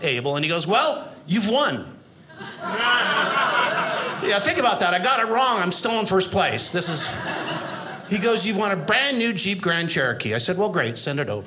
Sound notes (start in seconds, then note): 2.3 audience laughing